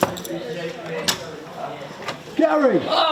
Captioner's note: students chattering